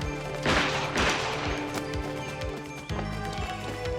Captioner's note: gun firing